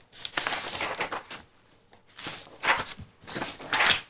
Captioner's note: pages rustling